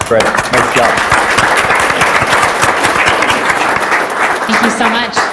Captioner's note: audience applauds